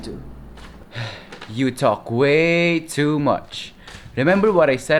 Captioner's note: sigh